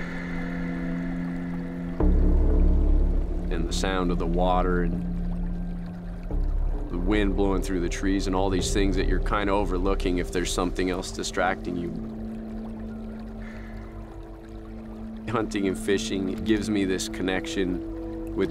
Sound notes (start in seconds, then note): 13.2 water gurgling